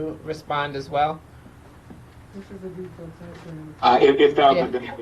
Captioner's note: person speaking off mic